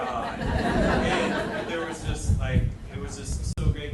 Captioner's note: audience laughing